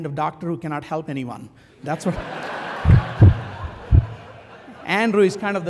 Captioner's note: laugh